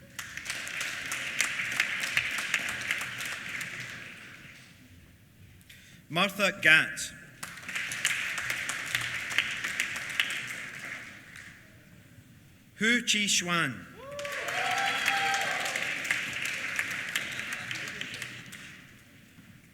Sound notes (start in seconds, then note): 0.0 applause; 7.3 applause; 14.0 applause